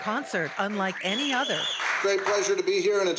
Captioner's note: applause